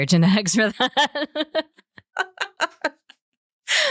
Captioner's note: laughter